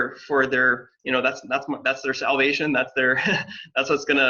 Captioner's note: chuckles